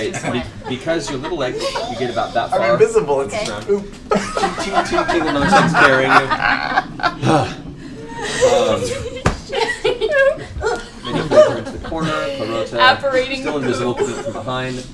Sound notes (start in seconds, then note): 6.2 laughter; 7.1 sighs; 8.2 grunting and laughter